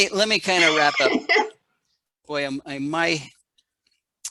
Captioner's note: laughs